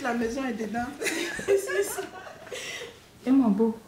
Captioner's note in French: rires